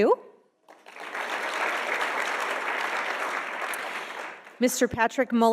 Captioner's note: audience applauding